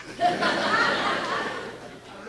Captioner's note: laughing